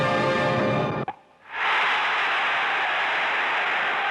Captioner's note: crowd cheering